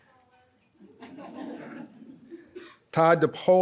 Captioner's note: audience laughs